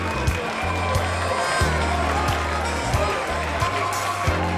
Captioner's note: crowd cheering